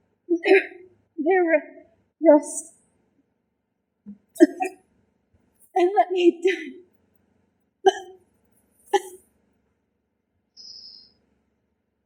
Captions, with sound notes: There, there rust [cough] and let me die [cough]